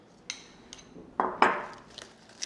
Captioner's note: bowl thuds; spoon clinks; bowl thuds; lettuce rustles